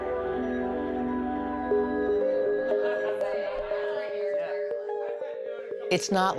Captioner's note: laughter